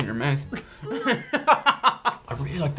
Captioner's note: laughing; gagging